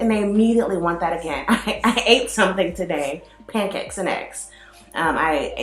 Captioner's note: laughs